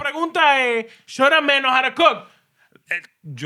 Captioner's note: speaking Spanish